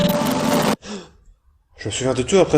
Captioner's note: gasp!